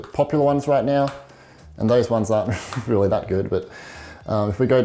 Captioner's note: chuckles